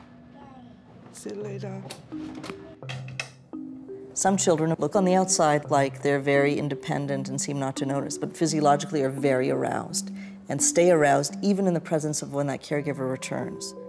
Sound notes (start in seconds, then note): 2.2 door closes